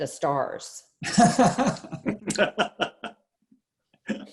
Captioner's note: laughs